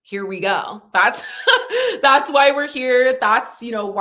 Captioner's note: chuckles